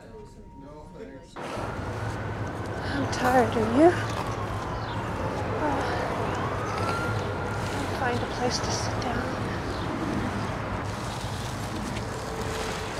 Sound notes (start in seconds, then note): 1.4 distant sirens